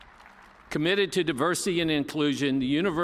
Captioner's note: applause